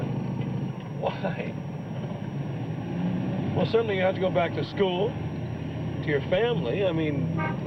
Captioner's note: laughs